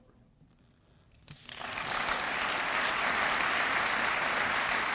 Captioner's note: applause